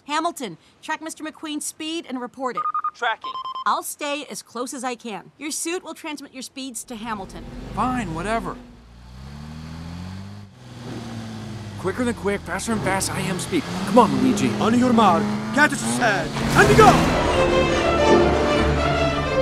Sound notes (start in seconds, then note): 9.2 car sounds; 17.0 racing sounds; 18.2 playful music